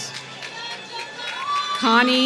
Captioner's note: applause